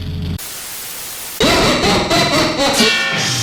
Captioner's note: vile Laughter